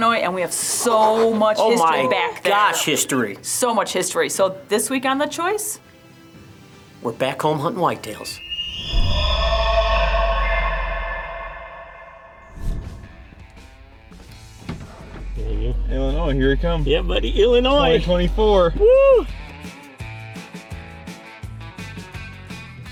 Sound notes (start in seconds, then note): 9.3 eerie groans; 18.6 cheers; 20.1 upbeat music